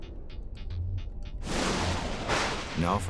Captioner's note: light dramatic music; thunder crashes